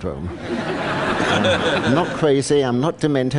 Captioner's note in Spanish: Risas